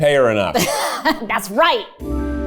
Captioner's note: laughs